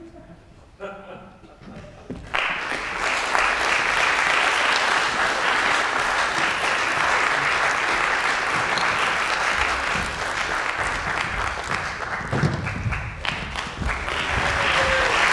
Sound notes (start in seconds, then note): 0.6 audience laughs softly; 2.1 audience claps